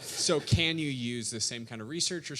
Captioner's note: audience laughing